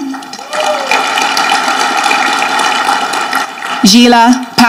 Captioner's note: audience clapping